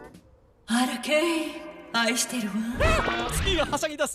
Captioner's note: soft voice